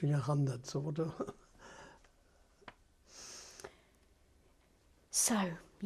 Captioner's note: laughs